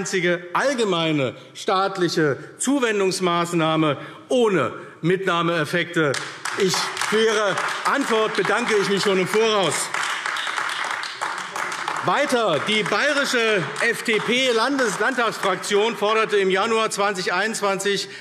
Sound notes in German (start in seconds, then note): 10.2 Beifall AfD